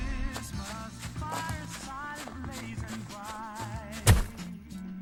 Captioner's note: snowy footsteps